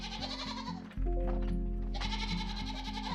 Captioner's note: goats bleating